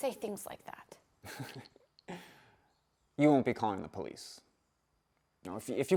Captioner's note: chuckles